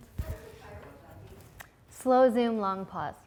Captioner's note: voiceover